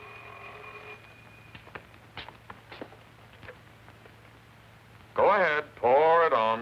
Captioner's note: phone ringing